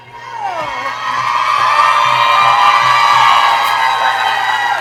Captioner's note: people cheering